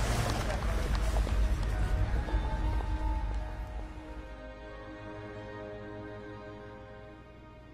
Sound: cheering

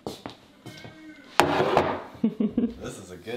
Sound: bowl banging

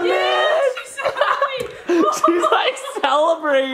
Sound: laughs

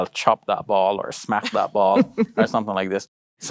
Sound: laughs

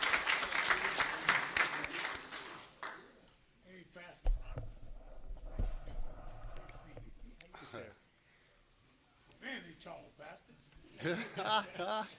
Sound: applause

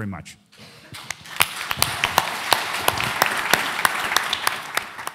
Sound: audience applauding

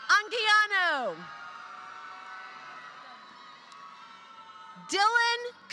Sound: applause

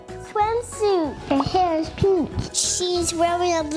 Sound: pops

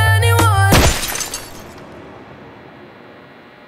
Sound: glass shatters

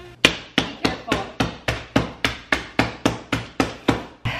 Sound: hammering

